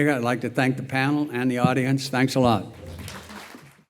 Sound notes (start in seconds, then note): 2.7 applause